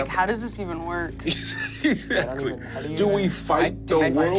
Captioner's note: Kingston laughs